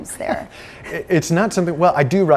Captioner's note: laughs